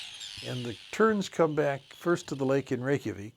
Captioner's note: terns calling kria